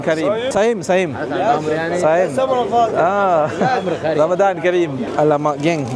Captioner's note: speaking Arabic